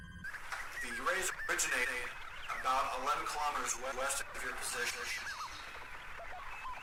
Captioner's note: crackle